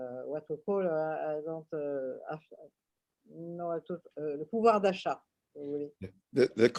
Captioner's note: french